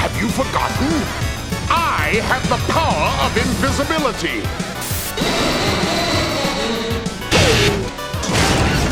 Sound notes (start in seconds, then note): 5.2 spooky Laughter